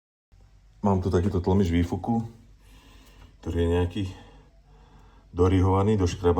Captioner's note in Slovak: smrkanie